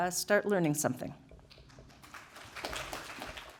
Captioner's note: applause